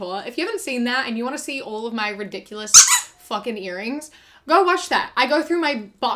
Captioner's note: squeak